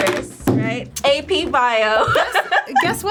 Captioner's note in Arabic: يضحك